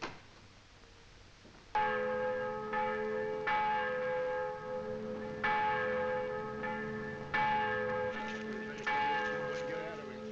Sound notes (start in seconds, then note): 1.4 church bell tolling; 8.4 people murmuring